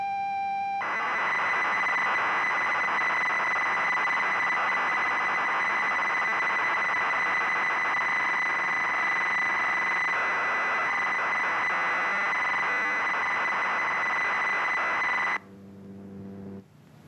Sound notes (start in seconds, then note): 0.8 a sound like static